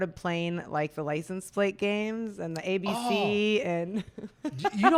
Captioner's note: laughs